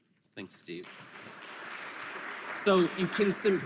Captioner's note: applause